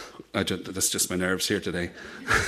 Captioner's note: laughs